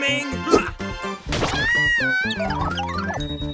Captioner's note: clover screams